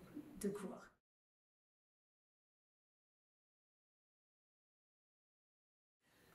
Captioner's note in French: silence